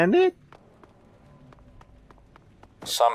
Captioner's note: footsteps